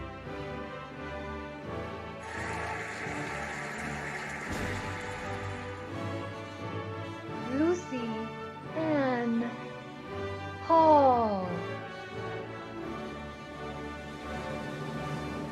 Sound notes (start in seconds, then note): 2.2 cheering and applauding; 12.7 cheerful music